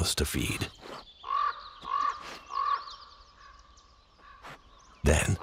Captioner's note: bird squawking